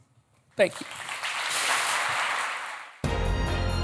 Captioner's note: applause